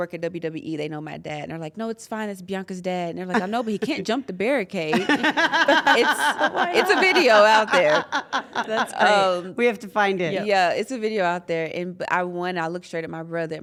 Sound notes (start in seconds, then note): 4.9 laugh